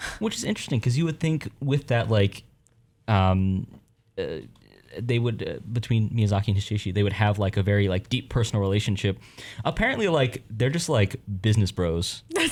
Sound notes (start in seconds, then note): none